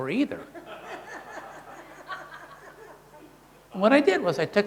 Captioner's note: audience laughing